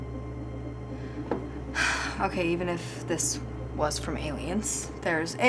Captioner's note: sighs